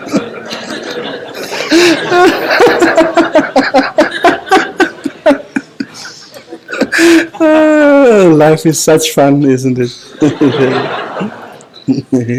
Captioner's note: general laughter